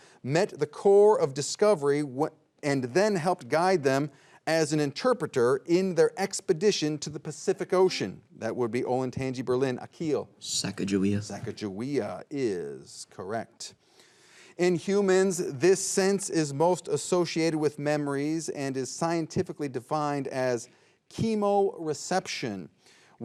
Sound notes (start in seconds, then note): 8.1 buzzer beeps